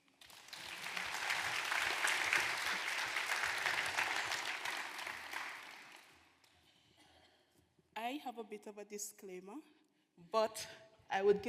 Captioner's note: applause